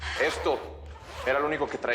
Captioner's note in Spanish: Sollozos